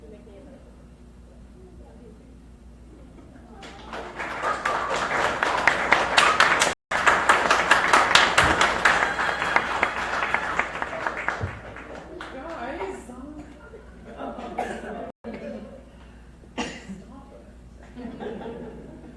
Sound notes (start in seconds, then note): 3.4 crowd cheers; 14.9 crowd laughs; 17.8 crowd laughs